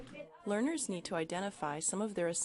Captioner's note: voiceover